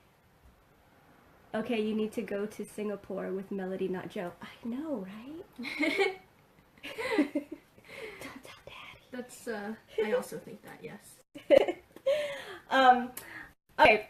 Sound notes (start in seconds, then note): 6.9 laughing; 11.4 laughs